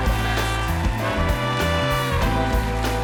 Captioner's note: applause